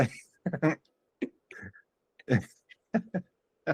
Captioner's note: laughs